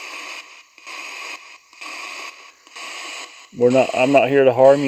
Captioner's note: ghost box buzzing